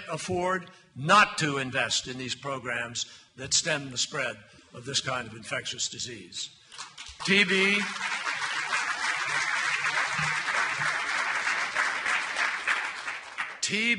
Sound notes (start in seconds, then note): 8.8 applause